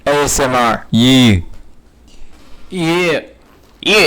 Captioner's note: louder echo